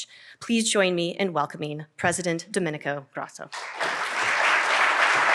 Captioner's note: applause